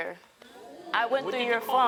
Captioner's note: audience groans